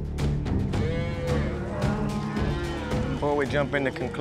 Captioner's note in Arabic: موو الماشية